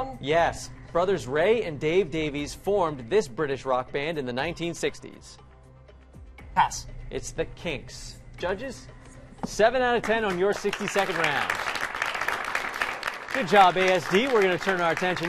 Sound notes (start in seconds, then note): 10.0 applause